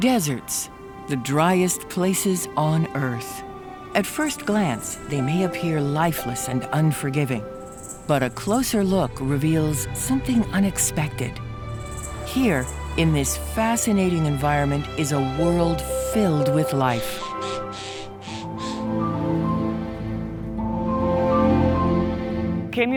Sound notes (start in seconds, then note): 17.2 bird cawing and moth buzzing; 20.7 playful orchestra music